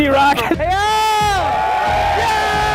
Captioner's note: shouts; crowd cheers